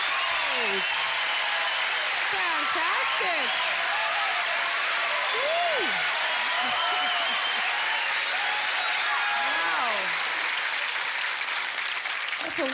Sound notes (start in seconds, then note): 0.2 cheers and applause; 5.3 chuckles